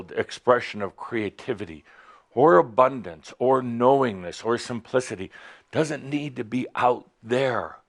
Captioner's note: none